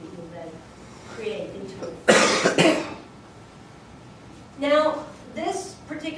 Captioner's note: student coughing over teacher's voice